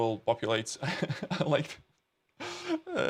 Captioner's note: chuckles